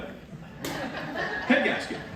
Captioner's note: laughter